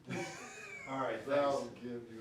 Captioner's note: laughs